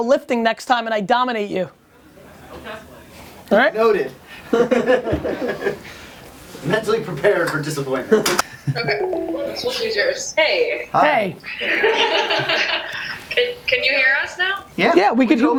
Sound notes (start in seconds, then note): 4.5 people laugh; 8.9 voiceover; 11.5 people laugh through video chat; 13.4 voiceover